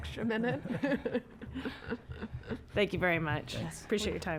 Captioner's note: laughter